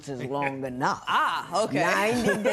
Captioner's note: laughing